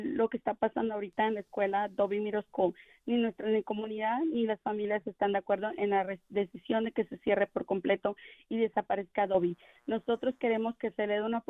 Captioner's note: speaking in spanish